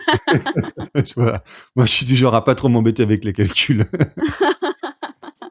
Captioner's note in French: rires